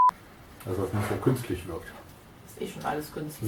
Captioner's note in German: Aus dem Off